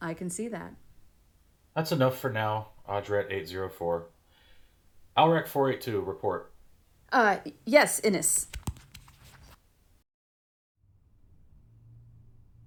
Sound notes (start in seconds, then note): 8.7 fumbling, recording stops